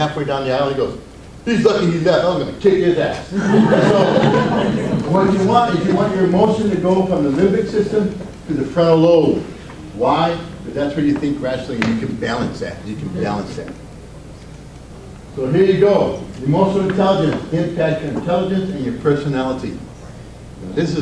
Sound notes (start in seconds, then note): 3.3 audience laughs